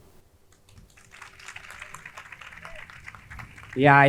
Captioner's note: crowd clapping